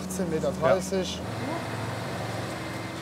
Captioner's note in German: Maschinenlärm